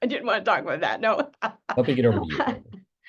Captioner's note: laughing